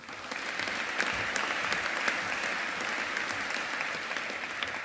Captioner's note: audience applauding